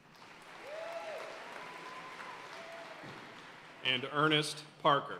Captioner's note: audience cheering and applauding